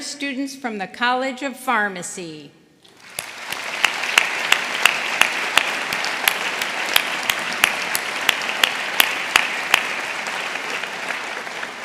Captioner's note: applause